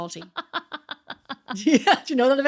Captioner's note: laughing